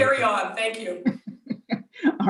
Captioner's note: chuckles